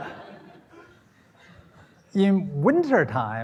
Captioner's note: laughter